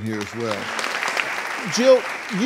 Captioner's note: clapping